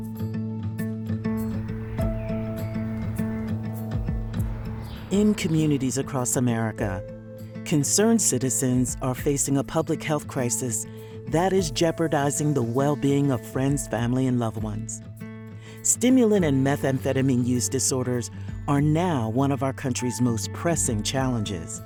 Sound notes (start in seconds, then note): 1.2 city ambience, birds chirping